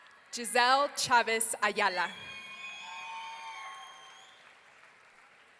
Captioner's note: audience cheering